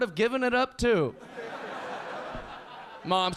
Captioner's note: audience laughing